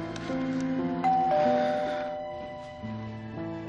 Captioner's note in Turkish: Kapı zili çalar